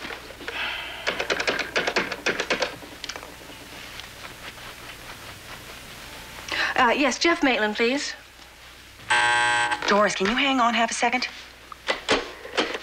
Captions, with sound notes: Uh, yes. Jeff Maitland, please. (TELEPHONE BUZZES) Doris, can you hang on half a second. Mr. Maitland's office.